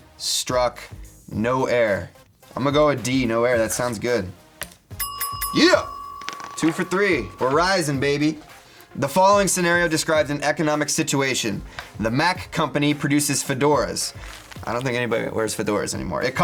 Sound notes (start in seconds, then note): 5.0 bell dings